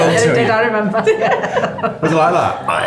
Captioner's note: laughing